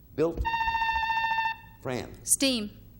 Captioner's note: buzzer beeping